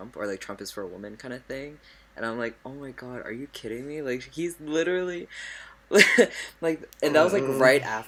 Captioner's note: laughs